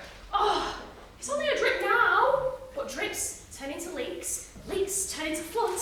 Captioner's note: exasperated sigh